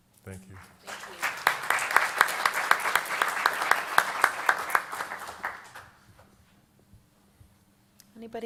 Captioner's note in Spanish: Aplausos